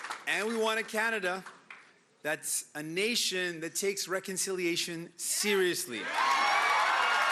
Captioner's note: cheering and Applause